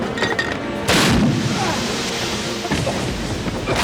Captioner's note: explosion